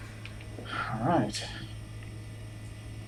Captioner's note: sighing